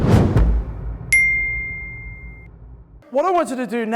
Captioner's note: bell rings